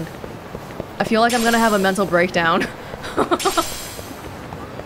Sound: chuckles

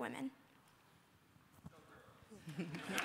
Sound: applause

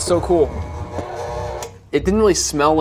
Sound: mixer running

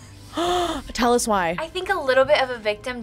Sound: gasps

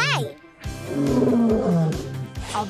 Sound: roaring

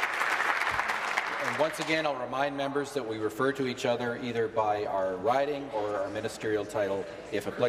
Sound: some Applause

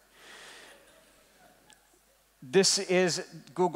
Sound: laughing

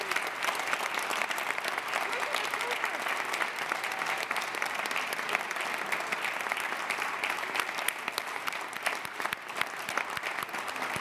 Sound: applause

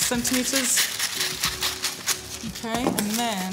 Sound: paper ripping

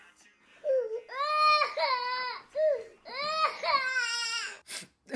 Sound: baby Cry

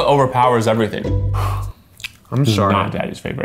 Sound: sighs

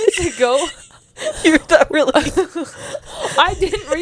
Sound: panel laughing

